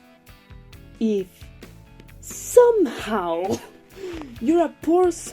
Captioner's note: evil lore obsessed chuckle